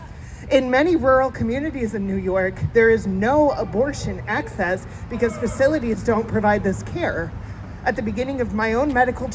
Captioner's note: boo